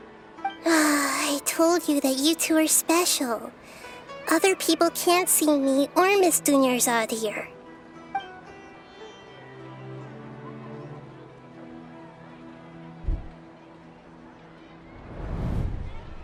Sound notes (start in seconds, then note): 0.5 sigh